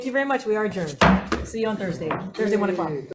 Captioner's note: gavel bang